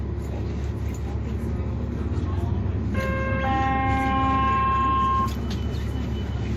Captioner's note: 99 B-Line Chime